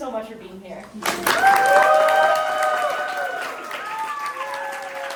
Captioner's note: audience applauding and cheering